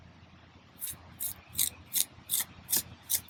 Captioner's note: trowel scraping